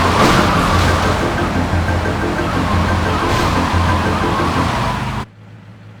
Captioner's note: car horn